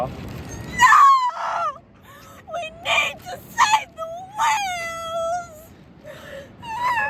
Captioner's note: sobbing